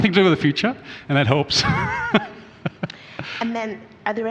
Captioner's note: laughs